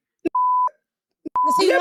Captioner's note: beep